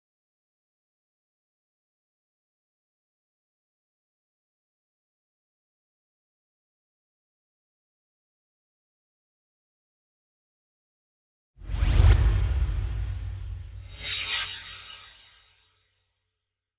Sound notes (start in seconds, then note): 11.6 swoosh